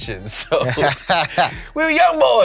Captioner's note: laughs